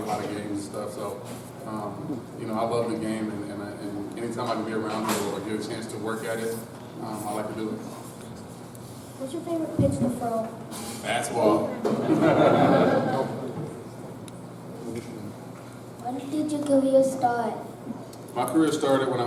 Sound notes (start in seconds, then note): 11.8 laughter